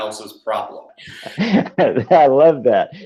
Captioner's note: laughs